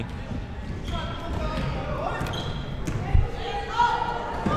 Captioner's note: players yelling